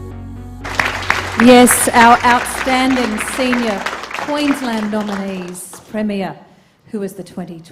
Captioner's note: applause